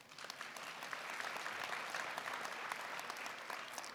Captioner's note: applause